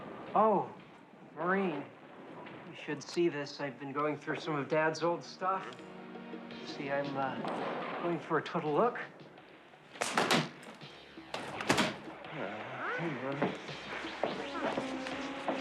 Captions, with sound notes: OH, MAUREEN, YOU SHOULD SEE THIS. I'VE BEEN GOING THROUGH SOME OF DAD'S OLD STUFF. SEE, I'M GOING FOR A TOTAL LOOK. [CRACKS WHIP UNSUCCESSFULLY] UH, COME ON.